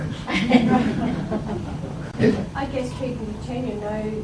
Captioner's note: chuckles from audience